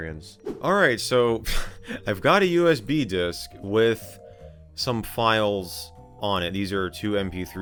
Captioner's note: laughs